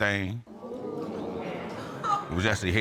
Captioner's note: audience exclaiming